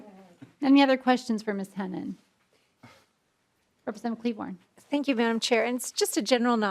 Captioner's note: laughing